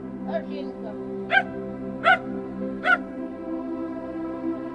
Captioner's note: dog barking